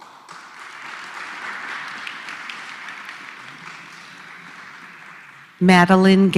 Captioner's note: applause